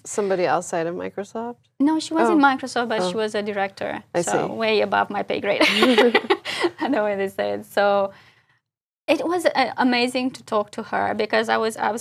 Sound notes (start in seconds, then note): 6.0 laugh